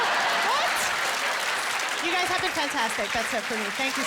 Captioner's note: laughter